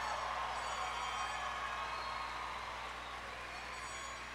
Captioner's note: applause